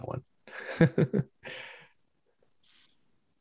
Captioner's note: laughter